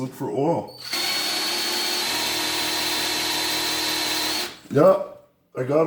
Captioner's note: drill whirring